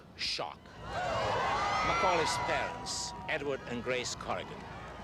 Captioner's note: crowd screams